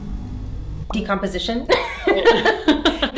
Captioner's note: suspenseful music; bubble popping; both laughing